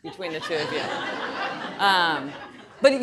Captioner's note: audience laughing